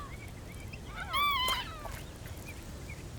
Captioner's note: bird cawing